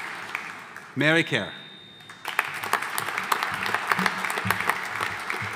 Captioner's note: audience applauding